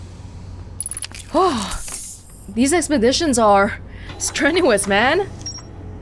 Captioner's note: sigh